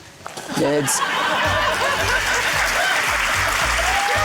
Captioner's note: laughter, applause